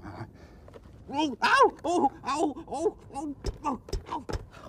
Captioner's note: groans